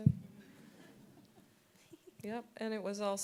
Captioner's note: audience laughing